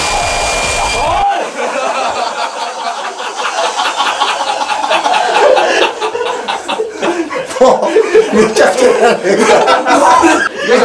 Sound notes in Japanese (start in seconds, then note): 5.5 笑い